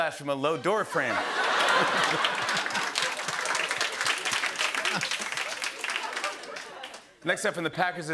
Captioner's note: laughter and applause